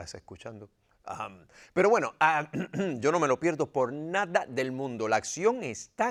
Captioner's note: cough